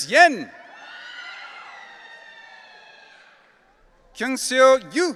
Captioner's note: audience cheering